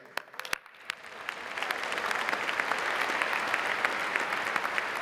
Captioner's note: audience applauding